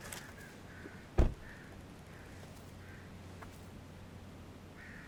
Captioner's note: car door thuds